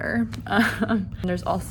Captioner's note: chuckling